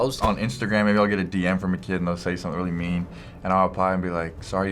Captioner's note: none